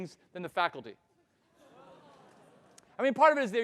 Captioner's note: audience ahhing